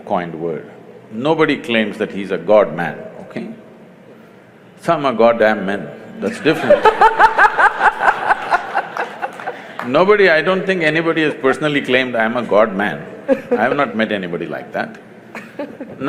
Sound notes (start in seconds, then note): 6.2 laughter